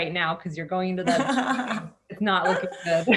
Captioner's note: laughter